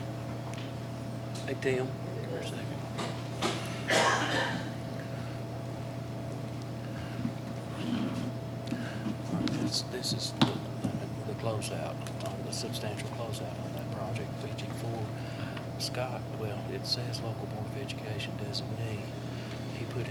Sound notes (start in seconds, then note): 15.1 faintly speaking